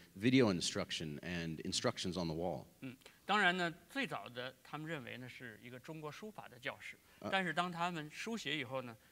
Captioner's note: speaking in Chinese